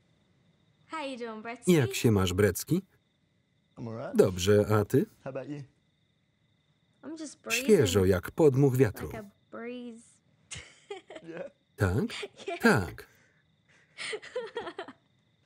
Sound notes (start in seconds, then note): 10.5 laughs; 13.8 laughter